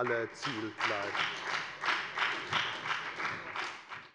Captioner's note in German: Beifall bei der FDP und der SPD